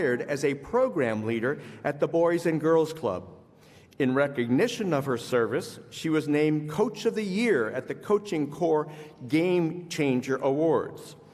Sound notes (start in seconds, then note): none